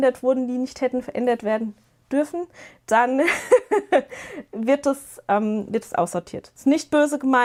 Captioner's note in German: gelächter